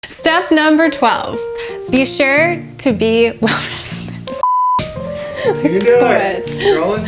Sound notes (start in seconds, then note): 4.3 beeps; 5.2 laughs